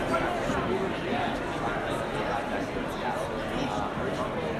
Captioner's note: crowd talking